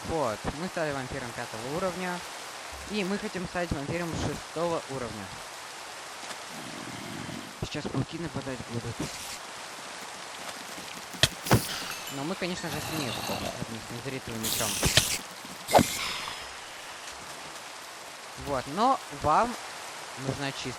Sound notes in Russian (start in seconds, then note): 15.3 фыркает